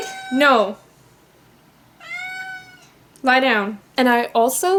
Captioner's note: cat meows; cat meows